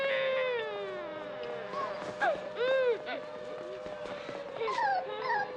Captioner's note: crying Continues; dog Whimpering